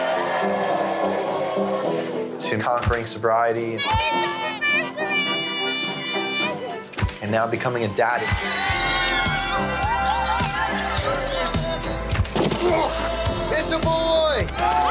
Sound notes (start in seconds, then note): 0.1 upbeat music; 3.8 people cheering; 8.0 people cheering